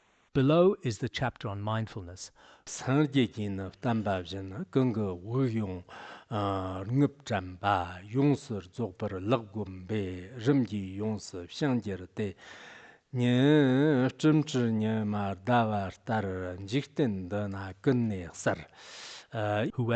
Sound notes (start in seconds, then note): 2.6 giving oral transmission in Tibetan